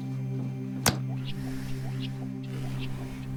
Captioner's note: hammer thuds; voice echoing